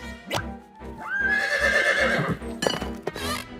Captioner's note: horse whinnies